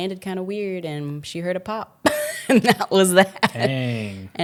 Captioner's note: laughs